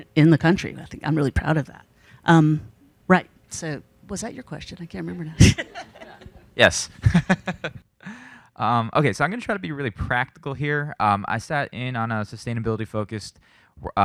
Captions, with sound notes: in the country, and I'm really proud of that. Right, so was that your question? I can't remember now. (panelists laughing) - Yes. (laughs) Okay, so I'm gonna try to be really practical here. I sat in on a sustainability focused